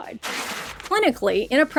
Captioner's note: paper rustling